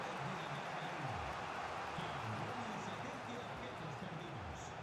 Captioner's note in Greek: χειροκρότημα